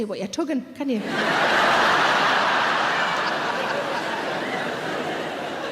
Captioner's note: audience laughing loudly